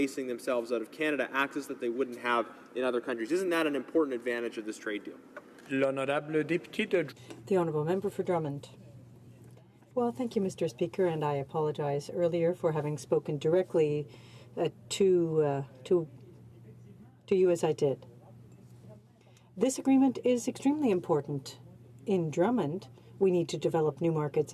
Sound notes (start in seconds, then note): 10.7 speaking in french